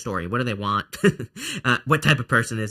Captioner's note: laughs